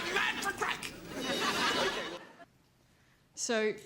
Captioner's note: audience laughs